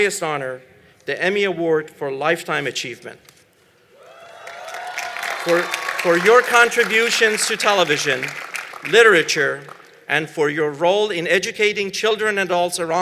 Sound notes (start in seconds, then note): 4.0 applause